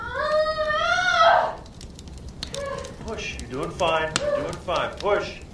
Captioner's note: groaning